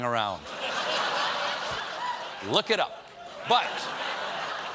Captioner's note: laughter